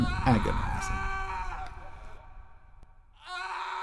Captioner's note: screaming